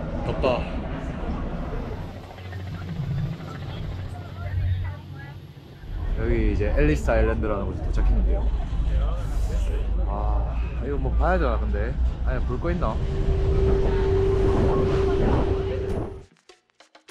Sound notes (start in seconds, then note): 2.3 helicopter